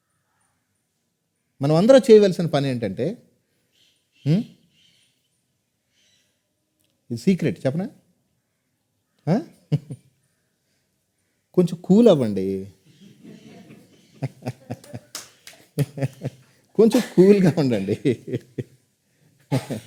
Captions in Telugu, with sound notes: అది మనమందరం చేయవలసిన పని ఏంటంటే ఇది సీక్రెట్ చెప్పనా ఆ కొంచెం కూల్ అవ్వండి [నవ్వు] కొంచెం కూల్ గా